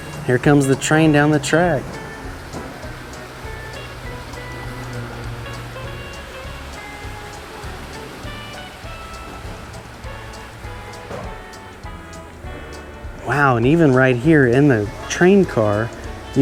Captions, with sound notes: Here comes the train down the track. (train whirs) (upbeat music continues) Wow, and even right here in the train car,